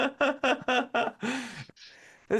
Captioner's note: laughing